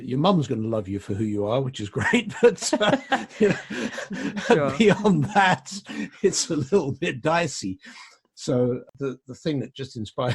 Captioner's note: laughs